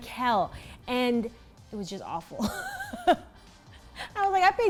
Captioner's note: laughs